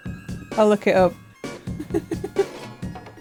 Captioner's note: giggles quietly